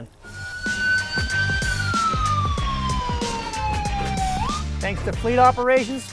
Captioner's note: siren